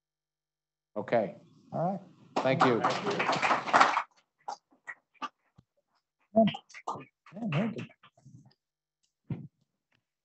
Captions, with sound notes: Okay. - All right. - Thank you. (audience applauding) (hosts chattering)